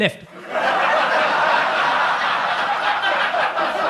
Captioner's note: audience laughs